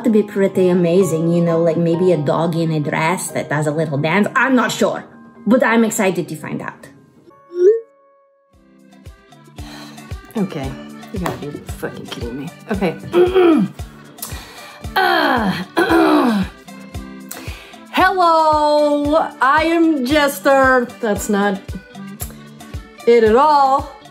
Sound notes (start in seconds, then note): 9.9 sighs; 13.0 clears throat